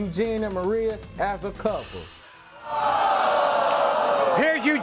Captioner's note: audience booing